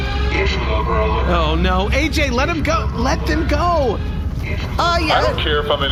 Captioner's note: nervous